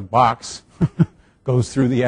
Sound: laughs

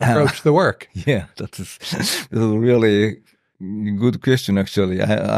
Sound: laughs

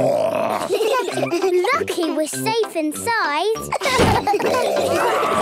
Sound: growls; giggling; growls, snorts

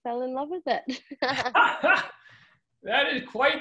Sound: laughter

